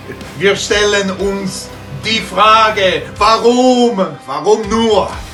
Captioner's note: Italian accent